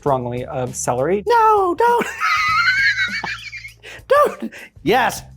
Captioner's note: laughs